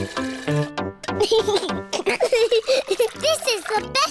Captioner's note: giggles